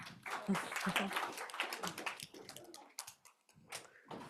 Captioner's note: audience clapping